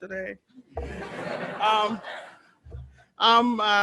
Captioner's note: students laughing